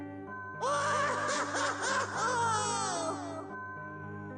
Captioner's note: Luigi screaming